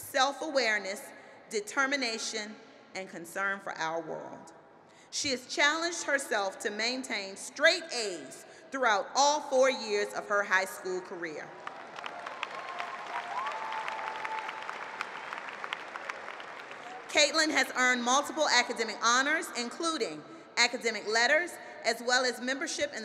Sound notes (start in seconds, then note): 11.6 applause